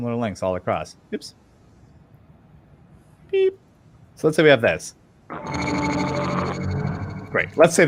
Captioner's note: low rumbling sound